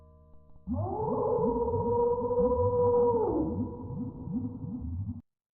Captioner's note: BALL SCREAMS as it DISSOLVES